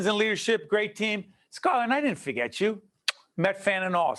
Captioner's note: kiss